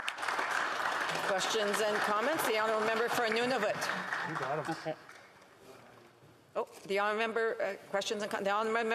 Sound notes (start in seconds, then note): 0.2 speaking Indigenous Language; 4.2 speaking Indigenous Language; 4.7 applause